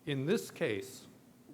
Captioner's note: none